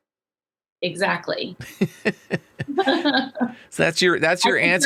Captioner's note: both laughing